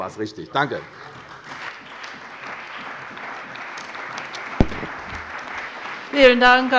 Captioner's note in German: Beifall bei der CDU und dem BÜNDNIS 90/DIE GRÜNEN